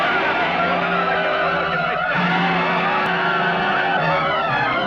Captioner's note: men shouting